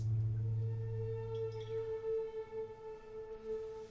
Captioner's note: threatening ambient music; liquid drops into glass